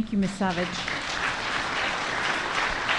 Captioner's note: applause